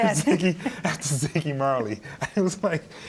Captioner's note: both laughing